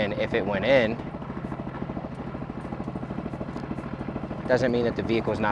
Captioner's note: boat engine chugging